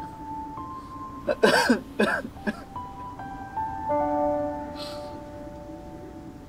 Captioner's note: Crying